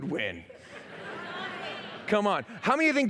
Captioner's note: laughter